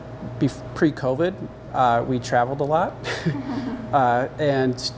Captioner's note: laughing